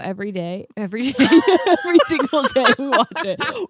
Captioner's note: laughing